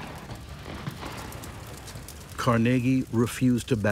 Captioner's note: gunfire continues